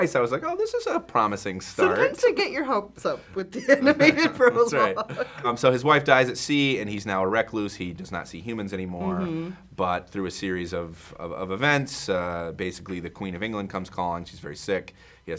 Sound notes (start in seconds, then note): 3.6 laughs